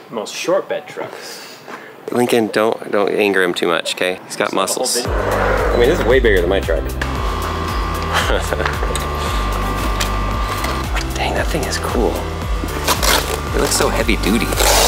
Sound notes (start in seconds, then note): 8.0 laughs; 8.5 wheelchair whirring